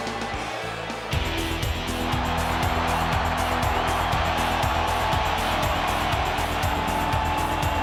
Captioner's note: crowd cheers; uptempo theme music